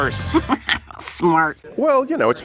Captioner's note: Pam laughs